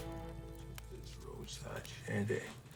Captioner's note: fire crackles